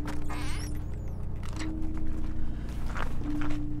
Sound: metal squeaking; somber music continues; snow crunching underfoot

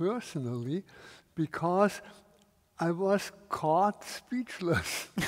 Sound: laughs

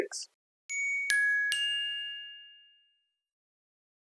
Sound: dinging

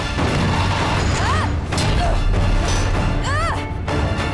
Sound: grunting

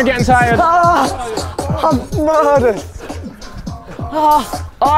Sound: men groaning

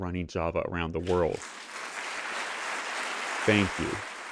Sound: applause

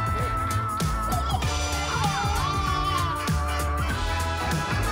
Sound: children laughing

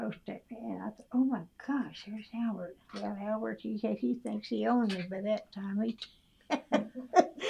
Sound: laughs

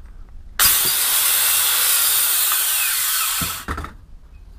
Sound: more loud sawing noises

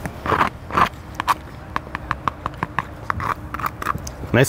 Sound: scrapes

